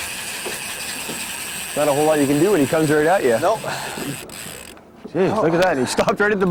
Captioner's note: drill whirring